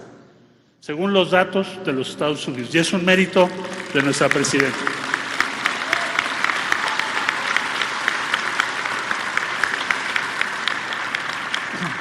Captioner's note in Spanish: aplausos